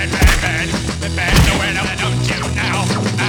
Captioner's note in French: bim; bam; Bruit de tirs laser